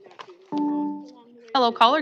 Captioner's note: chime